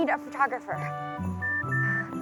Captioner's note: phone Beeps